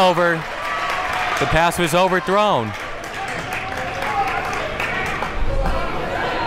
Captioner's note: crowd cheers